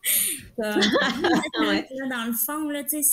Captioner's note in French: Rires